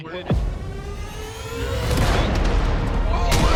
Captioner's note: gunshot